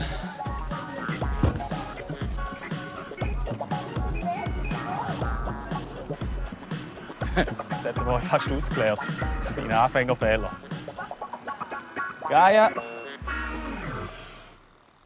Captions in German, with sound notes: (Lachend) Jetzt hätte ich ihn fast umgekippt - Anfängerfehler. Gaia!